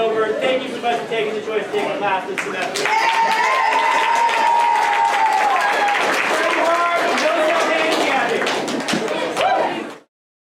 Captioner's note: class cheers